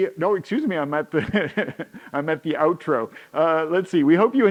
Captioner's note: laughs